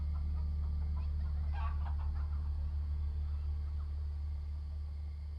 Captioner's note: soft suspenseful music; chickens clucking and squawking